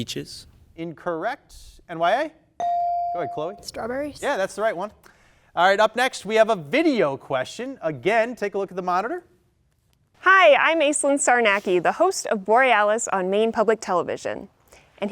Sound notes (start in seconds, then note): 2.2 buzzer dings